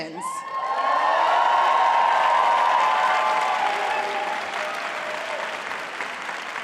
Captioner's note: applause